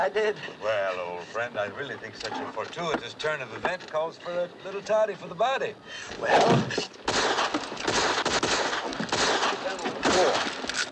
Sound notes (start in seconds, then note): 7.0 gunfire